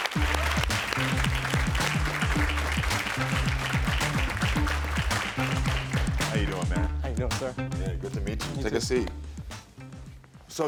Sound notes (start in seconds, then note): 0.3 lighthearted music; 2.6 audience applaud